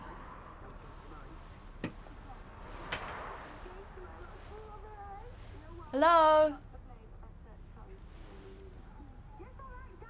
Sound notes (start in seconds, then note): 2.6 cars passing; 7.0 tv noise continues